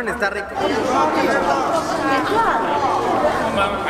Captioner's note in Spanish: Bullicio